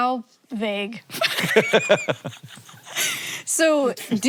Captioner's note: both laugh